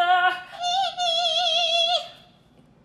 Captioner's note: hums